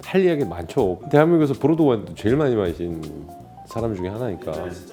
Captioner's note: confident